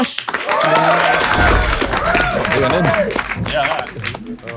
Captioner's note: people in room cheer